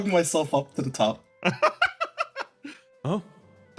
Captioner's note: laugh